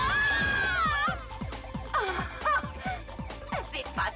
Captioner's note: screaming; laughing